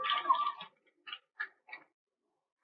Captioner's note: cheering